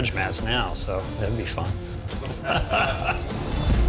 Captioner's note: laughs